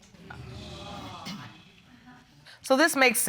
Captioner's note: audience exclaiming